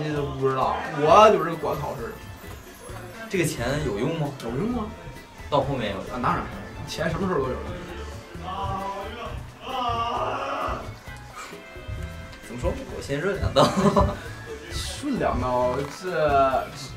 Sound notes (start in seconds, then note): 8.3 screams come from next door